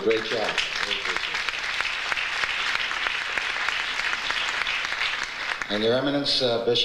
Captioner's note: audience applauds